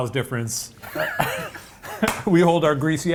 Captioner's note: laughing